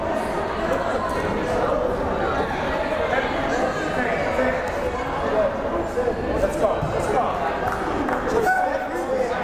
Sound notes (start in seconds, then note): 4.0 crowd murmuring